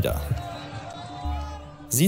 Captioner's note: babble of voices